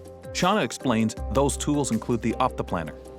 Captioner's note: voiceover